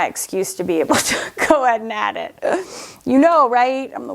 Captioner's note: laughs